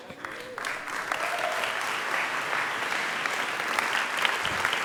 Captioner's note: audience applauding